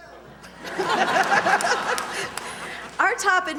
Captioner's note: laughter